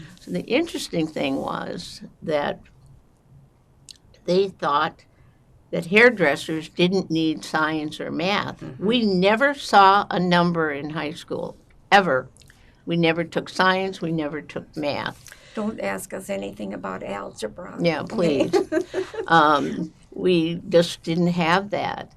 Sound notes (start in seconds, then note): 15.6 whispering; 18.1 laughing